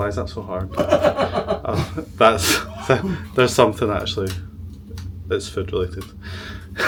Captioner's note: laughs